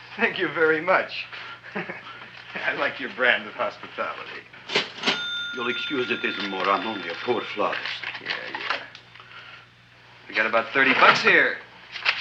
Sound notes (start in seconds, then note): 1.6 chuckles; 4.6 cash register dings